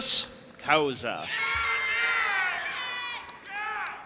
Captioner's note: audience applauding and cheering